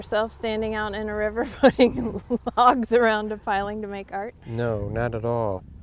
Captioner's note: laughs